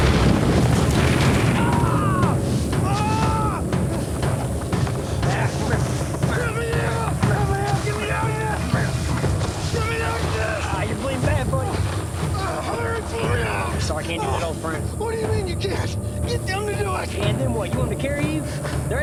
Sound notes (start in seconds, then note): 1.6 yells; 2.8 groans